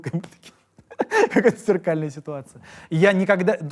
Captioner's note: laughs